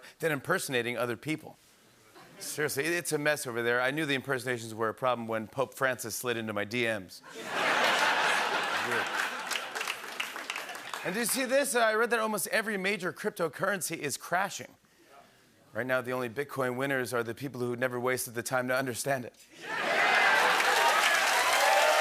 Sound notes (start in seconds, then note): 2.1 laughter; 7.3 laughter and applause; 19.7 laughter, cheering, whistling, and applause